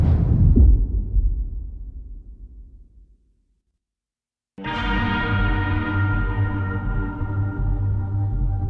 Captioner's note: dramatic sound